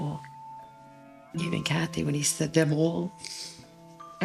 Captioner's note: sniffles